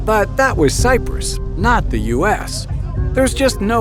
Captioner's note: voiceover